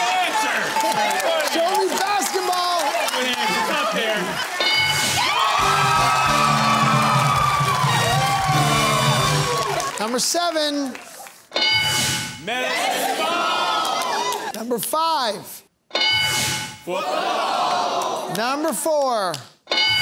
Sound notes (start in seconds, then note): 5.6 cheering and applause